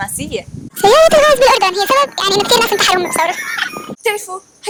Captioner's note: chipmunk voice